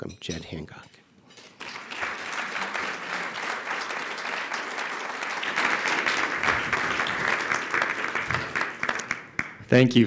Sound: applause

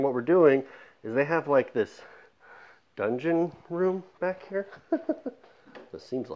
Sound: laughs

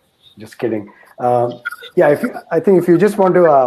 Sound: laugh

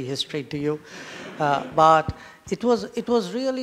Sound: laughter

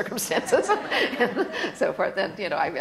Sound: laughter

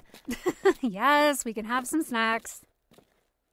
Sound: giggles

